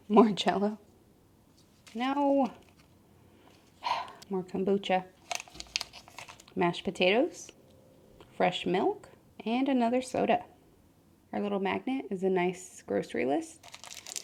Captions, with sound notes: More Jello. No! [exhale] More kombucha. Mashed potatoes. Fresh milk. And another soda. Our little magnet is a nice grocery list.